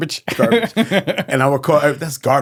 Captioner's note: laughing